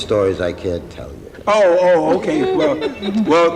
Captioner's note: laughing